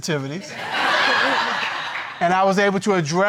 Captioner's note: courtroom laughing